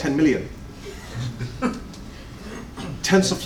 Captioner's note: laughter